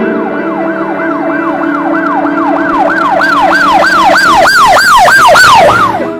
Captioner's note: alarm noises